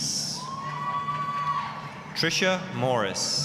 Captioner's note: applause, cheering